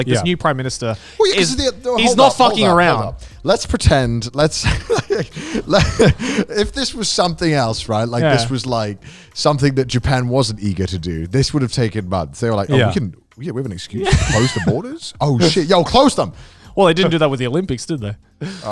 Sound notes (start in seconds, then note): 4.6 laughing